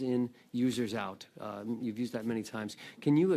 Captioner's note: speaking French